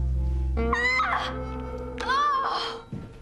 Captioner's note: girl Screams